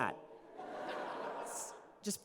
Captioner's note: laughter